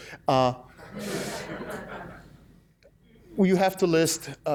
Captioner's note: laughs